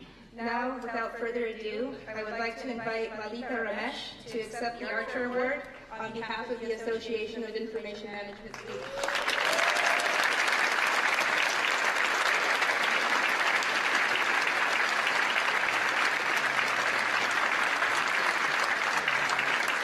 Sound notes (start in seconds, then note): 15.2 cheers & applause